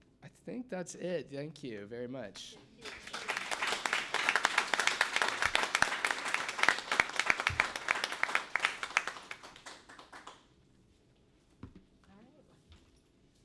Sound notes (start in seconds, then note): 2.8 applause